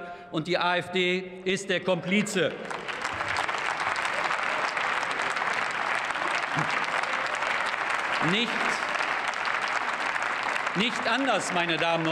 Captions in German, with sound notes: und die AfD ist der Komplize. [Beifall] Nicht anders, meine Damen und Herren,